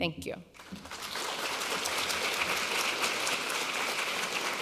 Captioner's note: audience applause